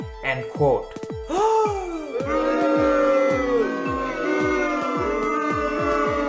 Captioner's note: crowd Gasp